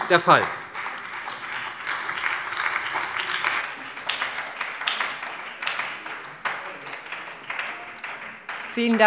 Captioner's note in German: Beifall bei der SPD